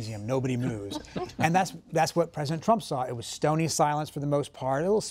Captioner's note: laughter